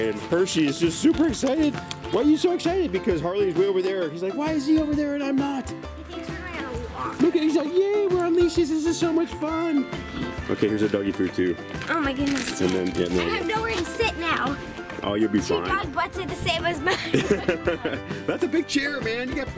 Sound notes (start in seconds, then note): 16.8 laughs